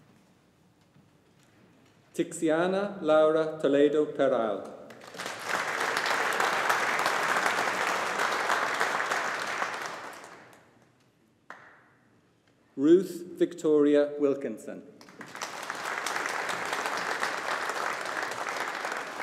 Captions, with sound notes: Tixiana Laura Toledo Peral. (AUDIENCE APPLAUDING) Ruth Victoria Wilkinson. (AUDIENCE APPLAUDING)